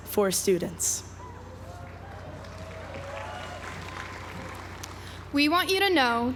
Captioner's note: applause